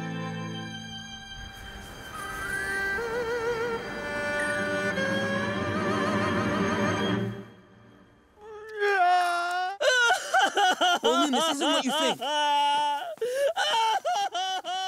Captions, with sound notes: [crying] Bolin, this isn't what you think. [crying]